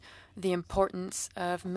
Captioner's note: speaking in French